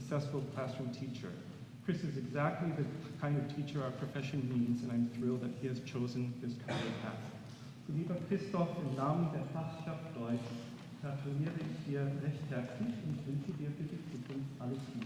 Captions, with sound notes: classroom teacher. Chris is exactly the kind of teacher our profession needs, and I am thrilled that he has chosen this career path. [NON-ENGLISH SPEECH]